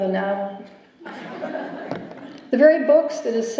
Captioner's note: laughter